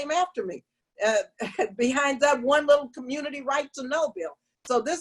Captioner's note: laughter